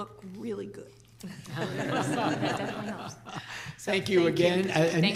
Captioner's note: laughter